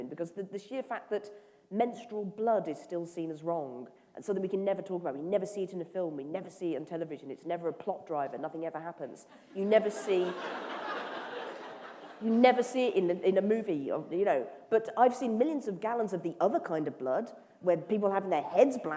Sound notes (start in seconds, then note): 9.8 laughter